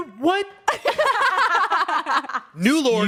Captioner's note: everyone laughs